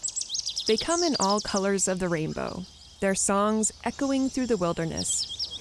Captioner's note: birds chirping